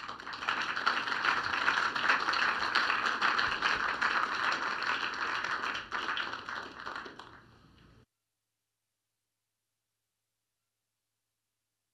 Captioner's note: applause